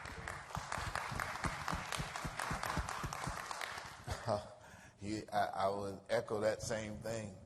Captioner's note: applause